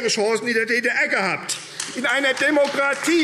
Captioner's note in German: Beifall AfD